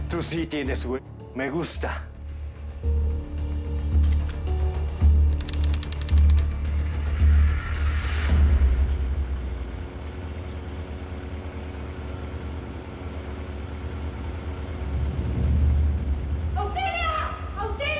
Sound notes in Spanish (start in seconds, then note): 9.2 Ruido de la moto